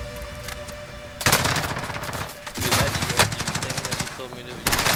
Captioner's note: gun firing